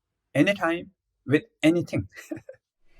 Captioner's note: laughs